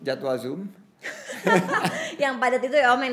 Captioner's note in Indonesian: tertawa